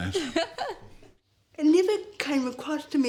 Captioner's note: laughs